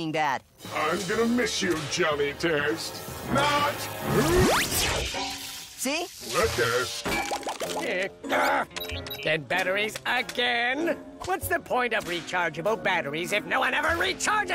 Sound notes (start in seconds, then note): 4.0 saber fizzles; 8.2 frustrated grunts